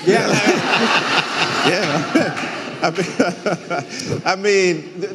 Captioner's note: audience laughing